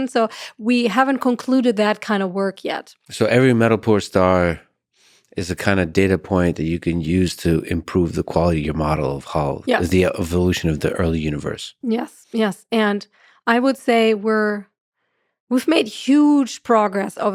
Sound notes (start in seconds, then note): none